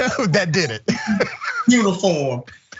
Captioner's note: laugh